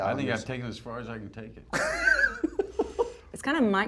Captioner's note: laughs